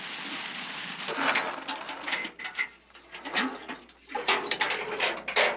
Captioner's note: river running; metal bucket clanking